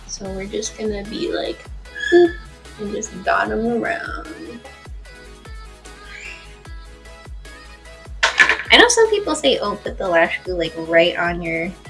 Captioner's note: boop